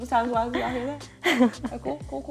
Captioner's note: laughs